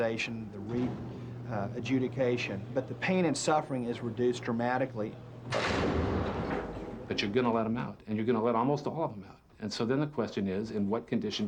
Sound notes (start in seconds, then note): 5.4 door slams